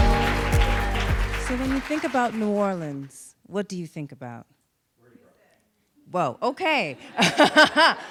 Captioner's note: audience shouts